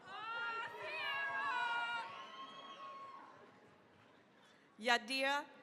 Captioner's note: cheering, applause